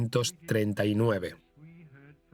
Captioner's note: none